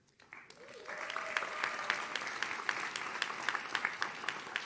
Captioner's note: audience claps